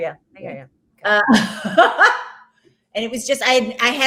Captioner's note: laughs